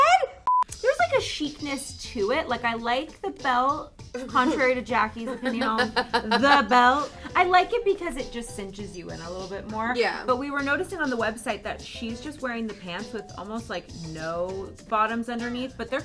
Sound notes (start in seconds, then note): 5.2 laughs